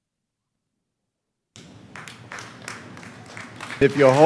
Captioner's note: clapping